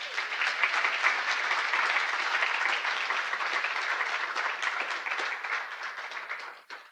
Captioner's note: applause